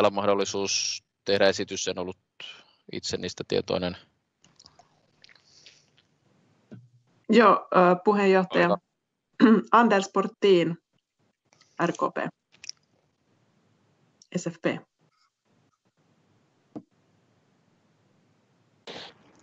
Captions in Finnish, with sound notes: mahdollisuus tehdä esitys? En ollut itse tietoinen? [taustakeskustelua]